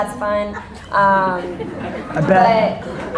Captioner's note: audience laughter